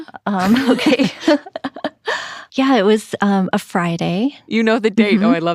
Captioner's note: laughs